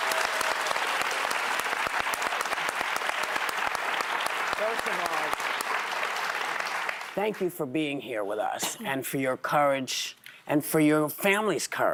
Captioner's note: cheers and applause